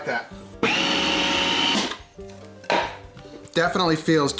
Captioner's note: mixer whirring